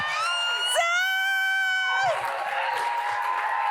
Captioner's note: audience cheers